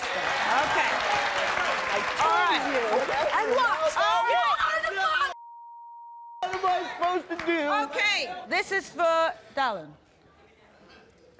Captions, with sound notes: (applause) - I told you. - Whatever. - You are the father (beep). - What am I supposed to do? - Okay, this is for Dallon.